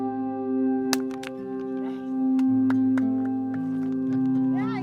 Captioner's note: whacking